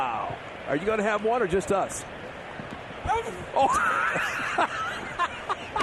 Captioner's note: laughter